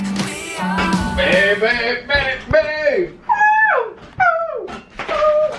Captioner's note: singing loudly; high voice